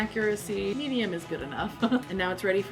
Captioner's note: laughs